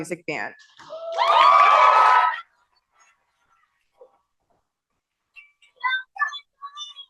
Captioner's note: cheering